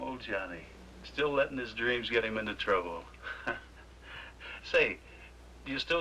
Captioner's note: chuckles